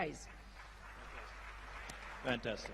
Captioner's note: applause